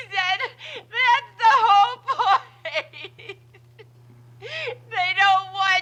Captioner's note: Betty sobbing